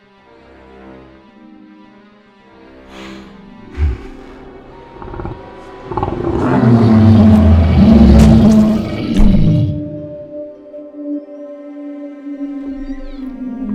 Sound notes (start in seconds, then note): 2.8 Bigfoot breathing heavily; 4.8 Bigfoot roaring; 10.6 eerie distant howl